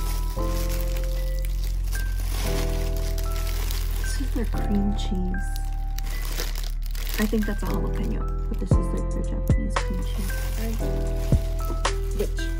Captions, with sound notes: [ Rustling of plastic ] This is the cream cheese ...I think that's a jalapeno but this is like the Japanese cream cheese bread